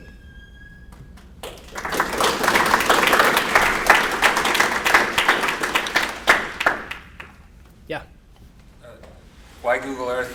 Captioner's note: applause